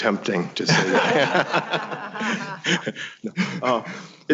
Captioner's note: all laughing